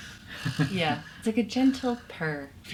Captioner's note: breathes heavily; laughs